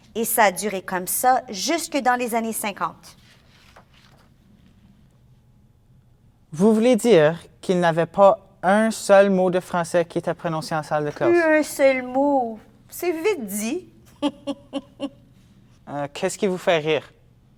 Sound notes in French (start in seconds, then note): 14.0 Rire